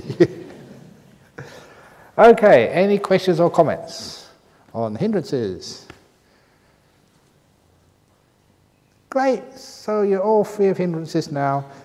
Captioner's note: laughs